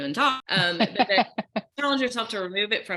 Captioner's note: laughing